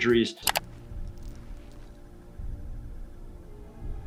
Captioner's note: keyboard clicks